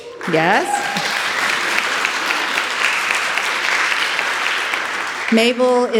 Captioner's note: audience applauding